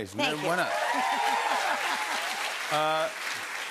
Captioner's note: cheers and applause